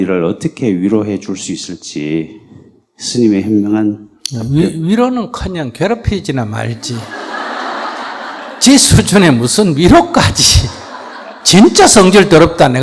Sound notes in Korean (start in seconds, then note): 6.8 청중 웃음